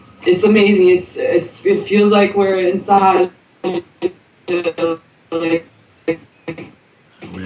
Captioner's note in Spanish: Interferencia en la llamadas de Skype